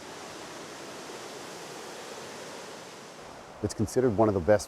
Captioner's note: water flows